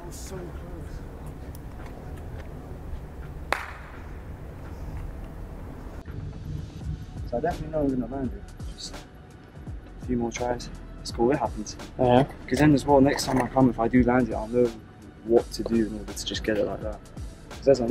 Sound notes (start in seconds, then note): 3.5 claps